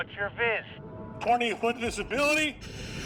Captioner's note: speaking over radio; SCUBA regulator hisses